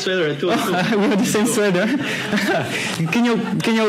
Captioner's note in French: rires